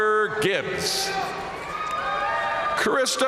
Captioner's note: audience cheering and applauding